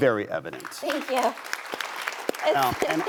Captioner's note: audience applause